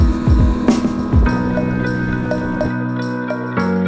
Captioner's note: wind blows; upbeat electronic music